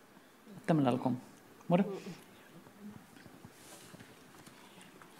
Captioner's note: speaking Anmatyerr